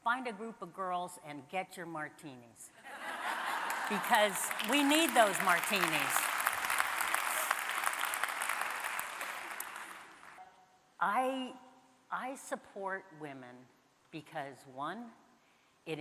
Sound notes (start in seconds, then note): 2.9 audience laughing; 6.6 audience applauding